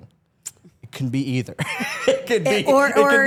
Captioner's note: laughs